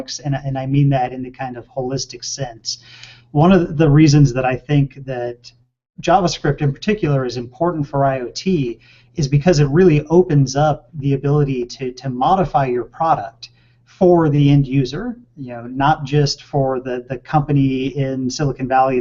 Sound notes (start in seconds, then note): none